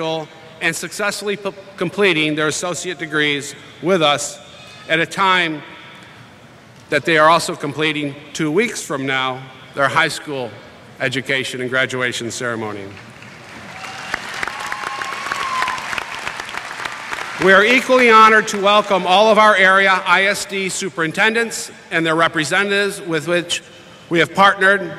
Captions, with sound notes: and successfully completing their associate degrees with us at a time that they are also completing two weeks from now their high school education and graduation ceremony. [ Applause ] We are equally honored to welcome all of our area ISD superintendents and their representatives with which we have partnered